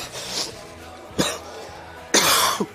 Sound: chokes and coughs; coughs

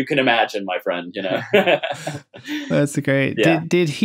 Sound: laughter

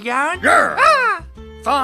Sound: angry Lion growl

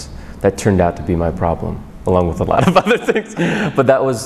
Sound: laughs

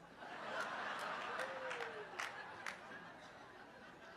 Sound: congregation laughing

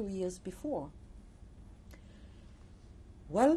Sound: pauses for 3 seconds

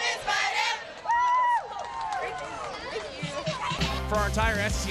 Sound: cheering

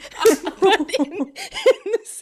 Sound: laughing

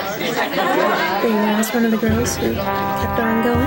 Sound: laughter

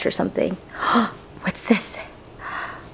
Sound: gasps

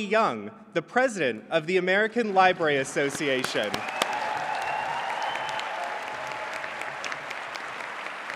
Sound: applause

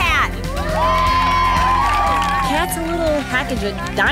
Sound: all cheering

